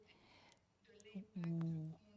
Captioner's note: speaking FRENCH